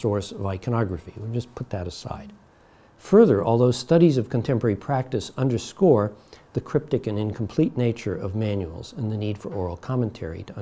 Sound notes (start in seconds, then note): none